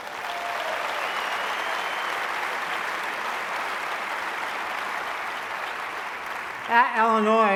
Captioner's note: applause